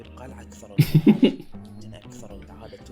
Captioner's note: laughs